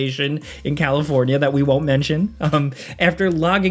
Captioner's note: chuckles